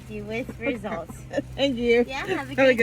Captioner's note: laughing